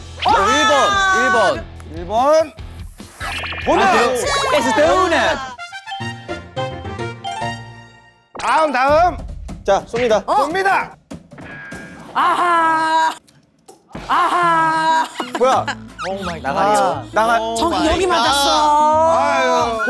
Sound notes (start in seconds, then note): 11.3 swoosh